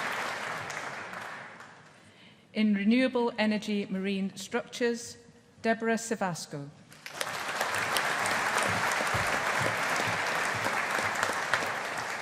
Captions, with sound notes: In Renewable Energy Marine Structures, Debora Cevasco. (AUDIENCE APPLAUDING)